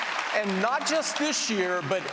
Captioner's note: applause